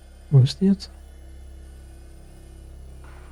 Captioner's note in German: none